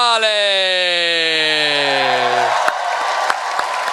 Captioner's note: cheering